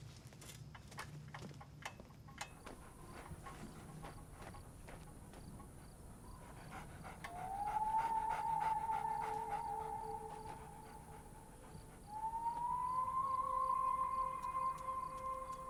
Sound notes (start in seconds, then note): 6.7 coyote panting; 8.3 eerie music playing